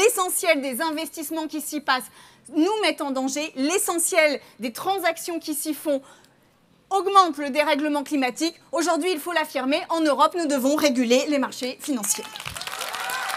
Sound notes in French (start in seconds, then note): 11.9 Applaudissements